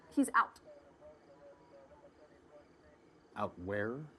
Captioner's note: chattering from police radio